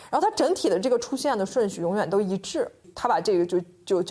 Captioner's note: speaking Chinese